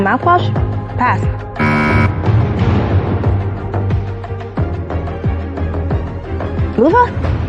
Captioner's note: buzzer sounds